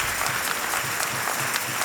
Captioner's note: applause and cheers